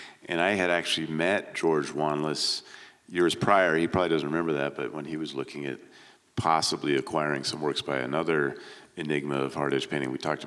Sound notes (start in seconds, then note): none